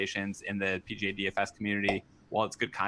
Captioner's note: popup pops